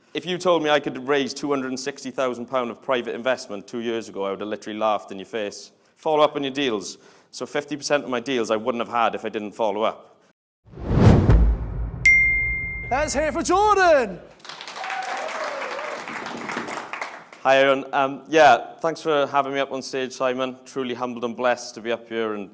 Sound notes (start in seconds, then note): 14.2 audience applauds